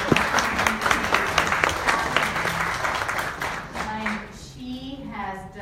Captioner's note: audience applauds